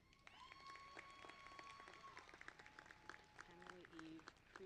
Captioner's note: applause